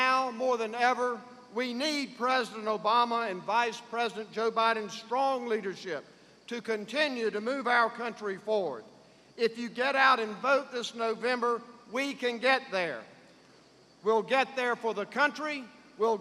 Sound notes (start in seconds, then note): none